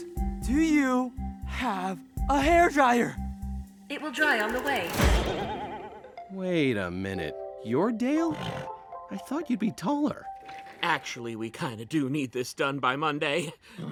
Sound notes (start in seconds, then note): 8.2 neighs